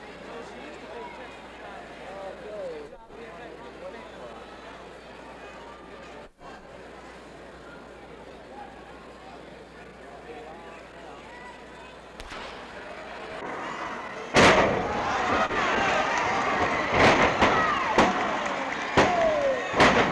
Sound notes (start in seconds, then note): 8.8 crowd chattering; 14.3 mat thuds; 15.4 crowd cheering; 17.2 mat thuds; 18.9 mat thudding